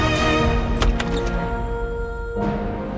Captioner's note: door opening